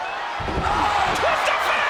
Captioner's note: audience cheering; bodies thud